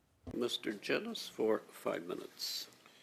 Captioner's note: speaking in French